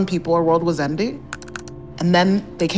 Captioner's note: keyboard keys clicking